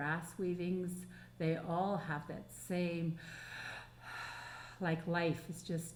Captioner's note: breathing